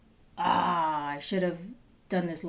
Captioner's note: groans